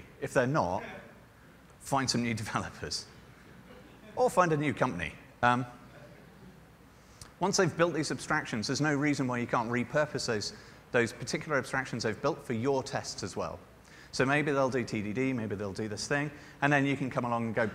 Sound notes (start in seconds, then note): 3.7 laughter